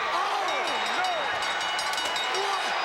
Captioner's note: commentators exclaim; bell ringing